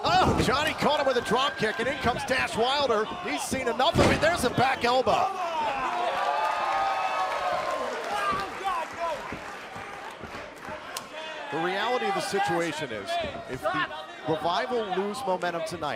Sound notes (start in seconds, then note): 6.4 crowd cheering